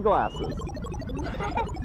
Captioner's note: electronic sounds; laughter